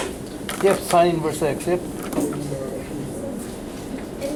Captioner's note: voiceover